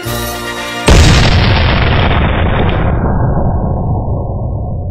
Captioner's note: cannon Blast